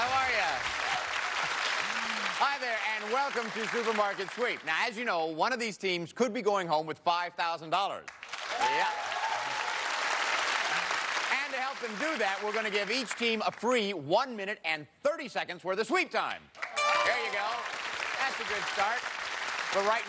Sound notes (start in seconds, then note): 1.7 laughs; 8.2 cheers and applause; 16.8 bell rings